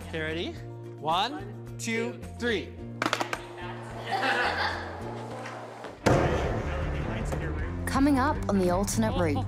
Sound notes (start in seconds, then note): 3.9 laughing